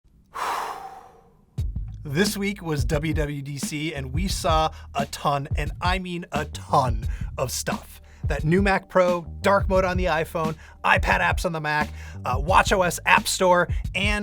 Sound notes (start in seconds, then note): 0.3 exhales loudly; 2.0 mid-tempo hip-hop music